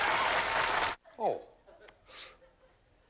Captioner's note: sniffs